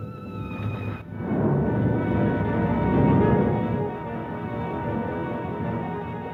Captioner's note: exciting orchestra music; fire roaring